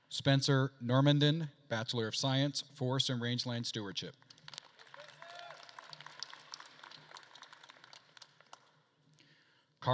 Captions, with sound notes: Spencer Normandin, bachelor of science, forest and rangeland stewardship. (attendees applauding) - Go, Spencer!